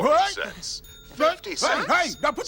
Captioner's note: recorded Voice On Phone